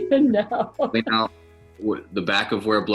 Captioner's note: laughs